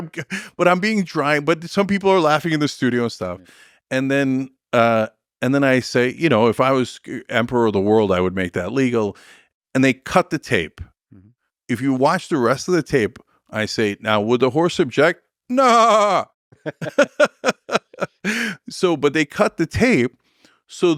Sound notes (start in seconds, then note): 16.5 both laughing; 16.6 imitates horse